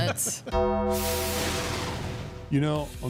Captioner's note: bell tolls